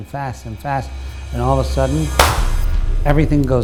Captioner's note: clap